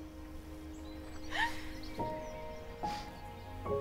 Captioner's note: Ellie sobs